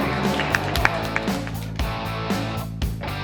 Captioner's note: clapping; lively music